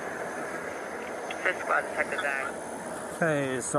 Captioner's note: radio chatter